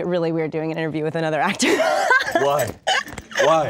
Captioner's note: laughs